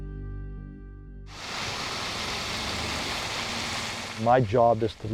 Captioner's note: gravel crunching